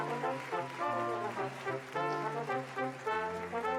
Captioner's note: applause